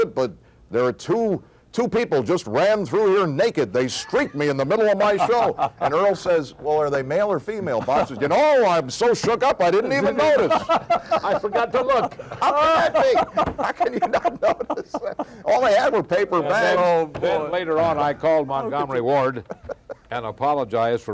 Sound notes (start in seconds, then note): 13.1 laughs